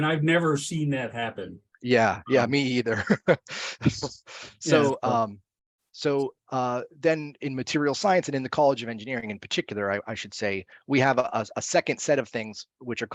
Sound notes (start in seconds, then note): 4.4 laughs